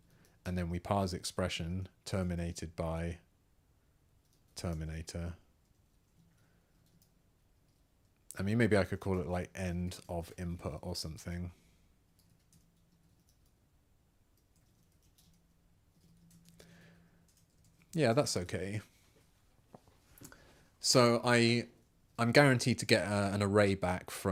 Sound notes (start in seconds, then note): 11.4 silence